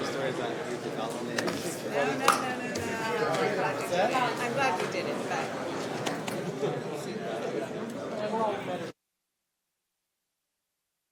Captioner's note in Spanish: charla de fondo